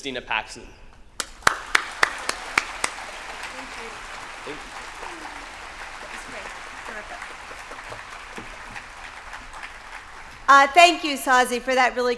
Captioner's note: applause